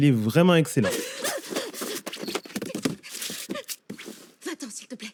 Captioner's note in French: Bruit de rangement